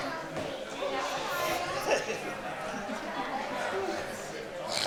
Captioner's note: attendees chatter